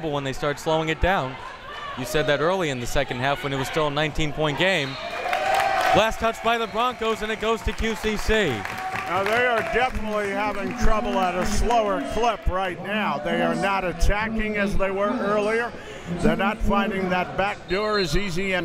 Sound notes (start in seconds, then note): 4.8 whistle tweeting